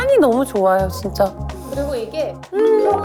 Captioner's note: sniff